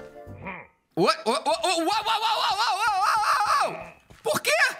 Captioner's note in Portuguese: som de pillager; som de pillager